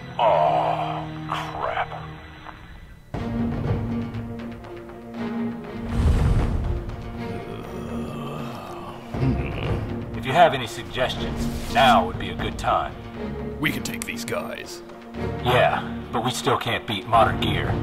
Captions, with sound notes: Awwwww crap. (Snake groans) If you have any suggestions, now would be a good time. We can take these guys. Yeah, but we still canít beat Modern Gear.